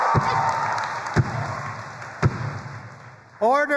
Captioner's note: audience applauding and cheering; pole thuds